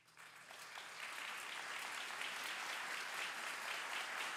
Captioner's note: audience clapping